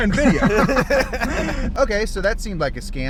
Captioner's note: laughing